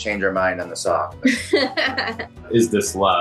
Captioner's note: laughs